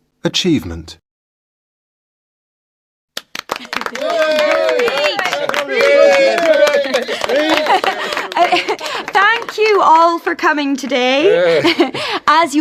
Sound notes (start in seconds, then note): 3.1 applause